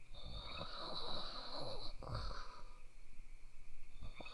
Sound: snoring

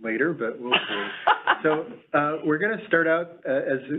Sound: laughing

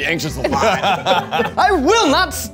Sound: all laughing

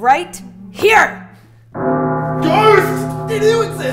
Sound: gong ringing

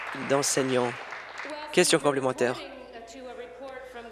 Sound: applause

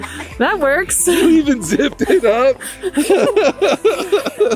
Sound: laughs; laugh

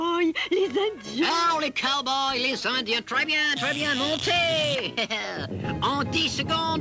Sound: chuckles

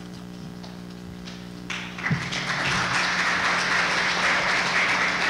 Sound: applause

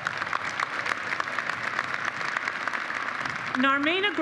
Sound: applause

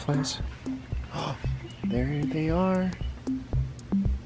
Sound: gasps

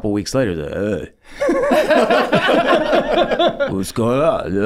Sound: Rob and Charlie laughing

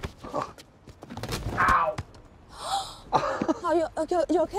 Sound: Eloise gasping

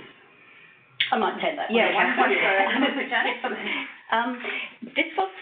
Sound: laughs

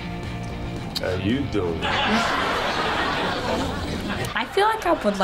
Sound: audience laughs

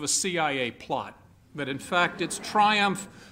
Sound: laughter

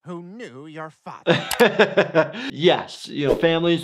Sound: laughs

